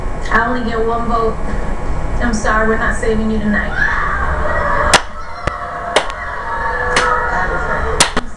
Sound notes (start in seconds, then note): 3.7 audience on tv reacts; 4.4 starts clapping